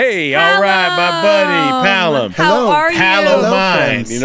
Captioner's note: laughs